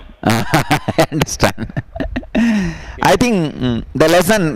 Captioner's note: laughs